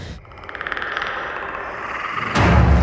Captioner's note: clicking alien noise